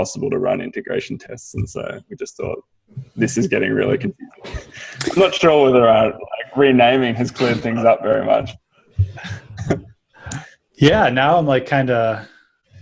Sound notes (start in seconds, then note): 4.3 signal skips